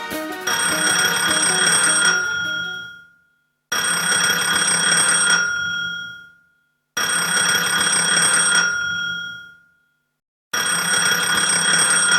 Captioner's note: phone rings